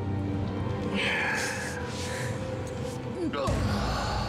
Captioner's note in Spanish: sollozos